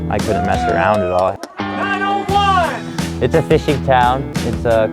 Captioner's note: cheers